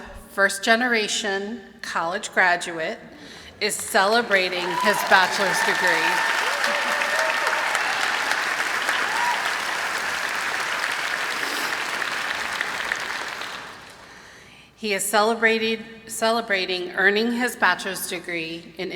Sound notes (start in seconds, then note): 6.2 applause and cheering